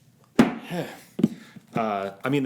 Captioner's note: sighs